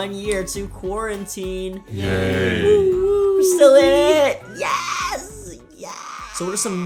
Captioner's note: crowd "yay" sound